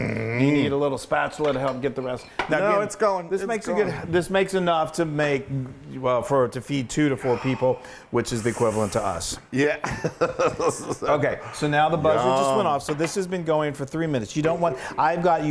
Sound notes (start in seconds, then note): 9.8 laugh